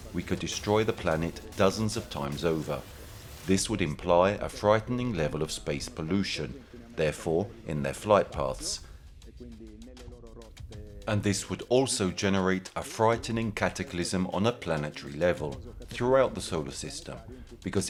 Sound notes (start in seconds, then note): 9.4 gentle music continues; 9.4 speaking in foreign language